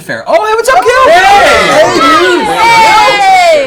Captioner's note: all cheer